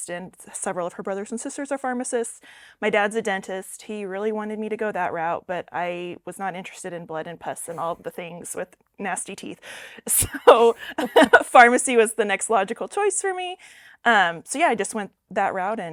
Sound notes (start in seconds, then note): 10.4 laughs